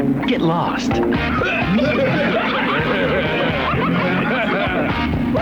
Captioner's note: laughs